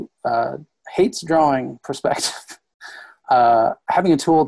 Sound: laughs

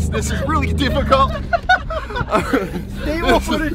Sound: laughing

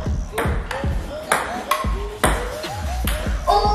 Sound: ball tapping

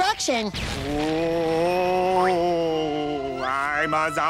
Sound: moaning

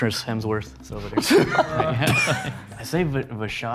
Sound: all laughing

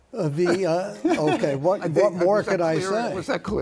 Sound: laughter

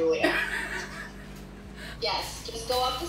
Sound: laughing

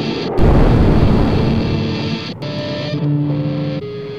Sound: bomb booming; tense music

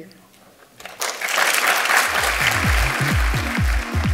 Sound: audience applauds; upbeat music

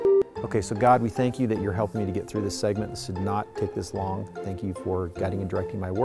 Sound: beeping

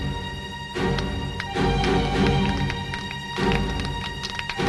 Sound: clapping

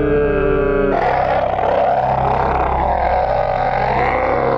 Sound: continues screaming

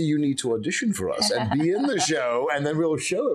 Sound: laughing

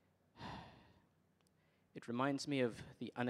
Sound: sighs

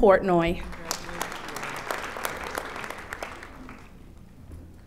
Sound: audience applauding

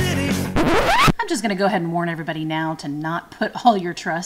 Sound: record scratch

